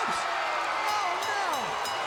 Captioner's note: bell ringing